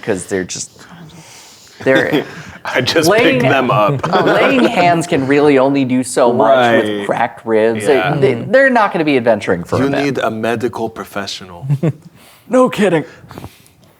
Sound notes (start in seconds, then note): 1.8 laughing